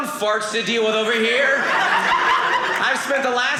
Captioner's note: audience laughing